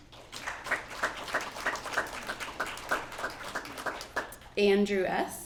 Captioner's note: applause